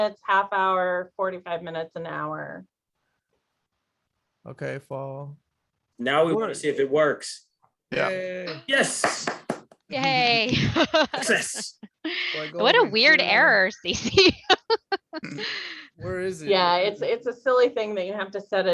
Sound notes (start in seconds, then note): 9.0 applause; 13.8 laughter